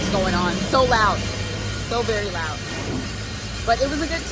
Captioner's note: traffic buzzing